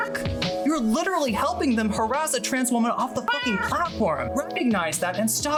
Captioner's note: meow; meow